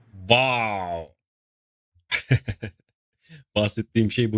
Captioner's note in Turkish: kahkaha